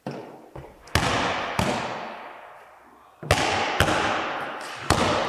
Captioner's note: ball bouncing